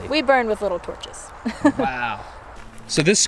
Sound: laughs

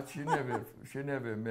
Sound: laughs

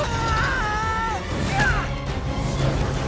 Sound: Cole screams; Cole shrieks

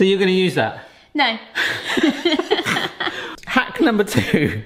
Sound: couple laughs

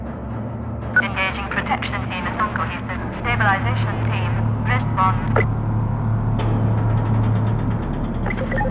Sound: radio

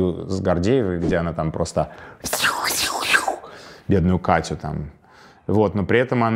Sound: makes swooshing sounds

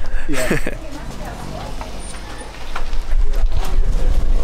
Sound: laughing

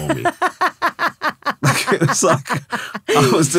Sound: laughing

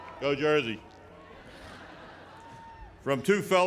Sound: laughter

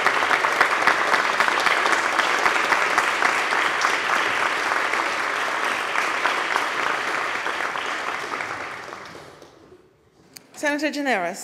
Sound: applause

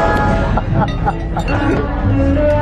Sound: laughing; rhythmic jazz music

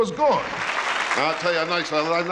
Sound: audience applauds

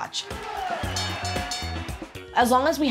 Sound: bell dings

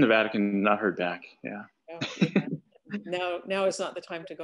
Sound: laughs

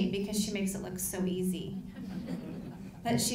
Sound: laughing

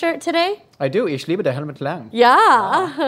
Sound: speaks German

